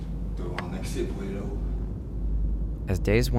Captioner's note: speaks French